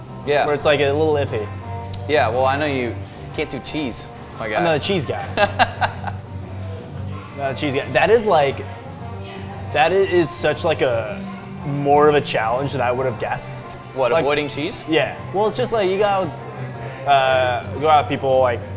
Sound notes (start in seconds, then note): 5.2 laughs